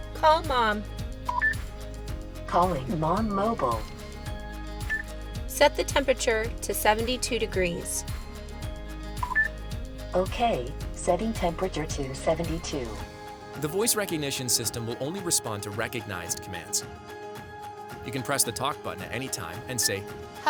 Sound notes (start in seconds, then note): 1.3 instrument panel beeps; 2.0 electronic Voice; 4.9 instrument panel beeps; 9.2 instrument panel beeps; 10.3 electronic Voice